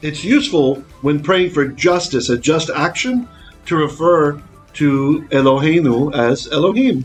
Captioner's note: Hebrew